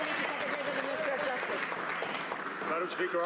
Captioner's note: some Applause